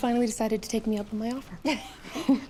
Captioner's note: both laugh